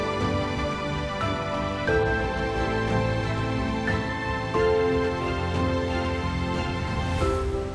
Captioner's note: none